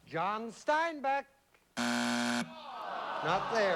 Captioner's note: buzzer